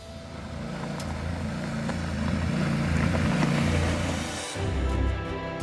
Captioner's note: motorcycle engine rumbling; adventurous music